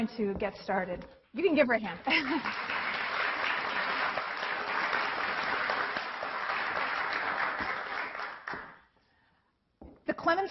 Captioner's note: applause